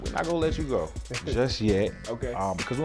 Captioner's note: laughs